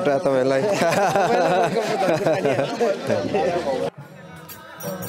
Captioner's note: laughter